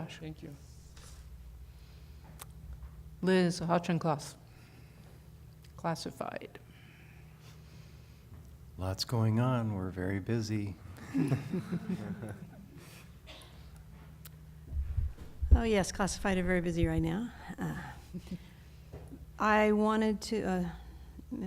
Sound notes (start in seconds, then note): 11.0 laughter